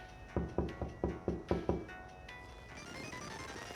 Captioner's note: knocks on door; lively video game music